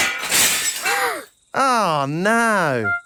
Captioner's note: shatters